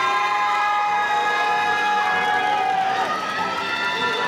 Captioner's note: crowd cheering